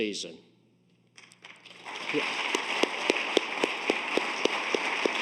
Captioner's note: audience applauds